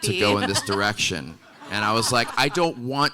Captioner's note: audience laughing